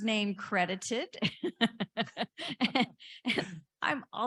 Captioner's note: laughing